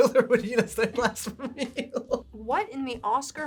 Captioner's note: laughs